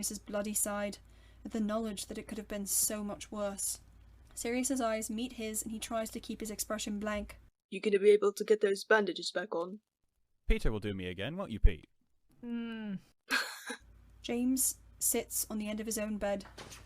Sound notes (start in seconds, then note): 12.1 Peter murmurs into his sheets; 13.3 huffs out a laugh